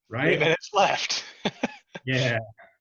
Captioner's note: laughing